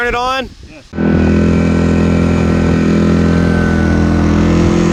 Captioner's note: motor running